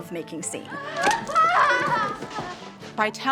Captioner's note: women laugh